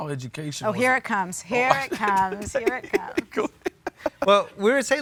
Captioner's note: laughs